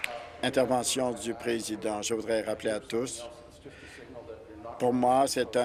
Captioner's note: applause